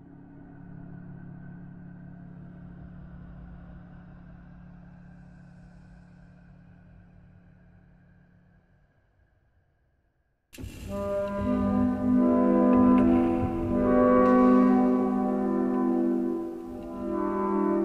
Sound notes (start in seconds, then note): 12.8 slowed